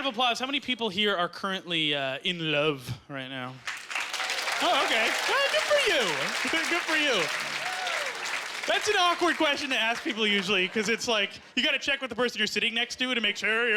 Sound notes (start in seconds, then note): 3.6 clapping